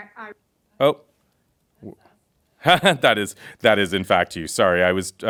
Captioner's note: laughs